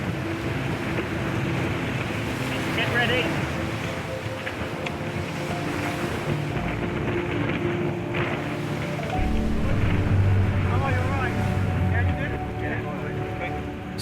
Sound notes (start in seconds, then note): 3.3 tense music; 4.0 wind whipping